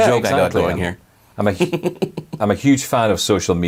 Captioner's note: chuckling